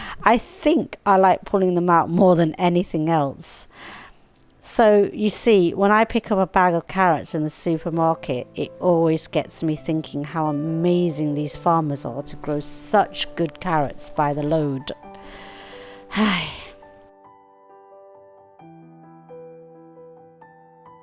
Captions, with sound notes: I think I like pulling them out more than anything else So you see, when I pick up a bag of carrots in the supermarket it always get me thinking how amazing these farmers are to grow such good carrots by the load (sigh)